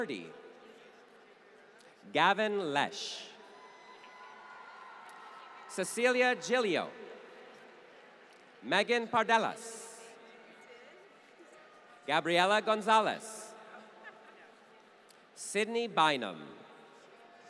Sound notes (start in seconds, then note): 3.8 applause